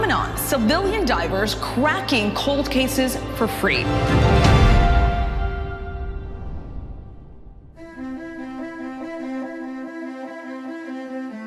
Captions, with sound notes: To a new phenomenon, civilian divers cracking cold cases for free. (air whooshing) (gentle electronic music)